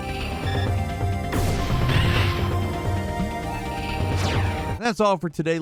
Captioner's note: electronic beeping; explosion blasts